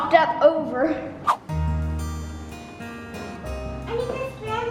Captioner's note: swoosh; upbeat guitar music